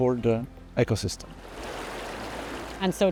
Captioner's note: rushing water